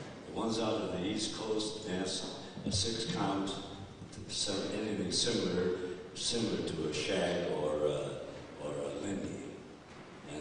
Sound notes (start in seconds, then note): none